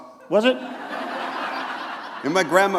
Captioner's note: laughter